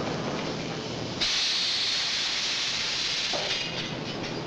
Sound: machinery rattling

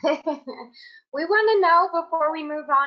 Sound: laughing

